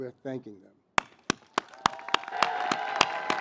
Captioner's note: cheers and Applause